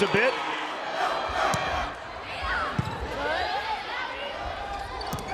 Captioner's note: crowd chanting